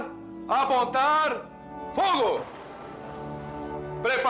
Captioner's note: gunshot